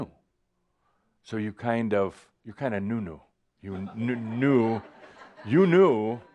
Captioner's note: some chuckles